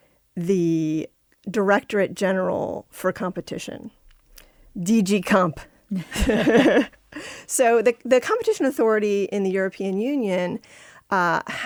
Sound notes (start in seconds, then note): 6.0 laughter